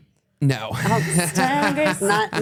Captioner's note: laughs